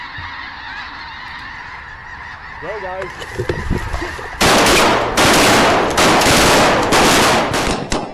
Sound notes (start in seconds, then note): 4.4 gunshots